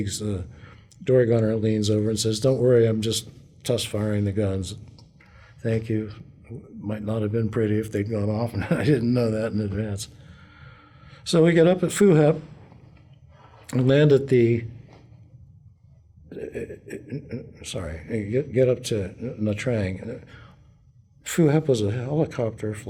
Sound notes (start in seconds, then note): 8.6 laughter